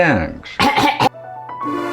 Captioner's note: clears throat in Lithuanian